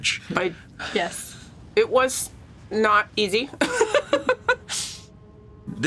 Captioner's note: laughs